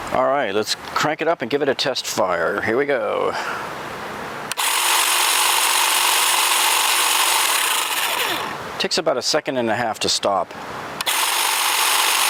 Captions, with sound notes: All right, let's crank it up and give it a test fire. Here we go. (hedge trimmer whirring) Takes about a second and a half to stop.